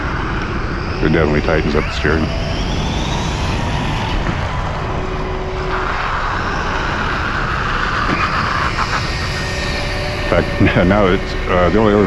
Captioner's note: electric motor screaming